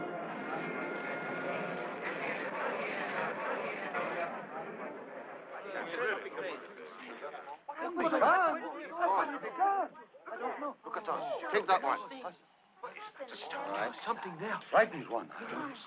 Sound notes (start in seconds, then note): 1.5 all murmuring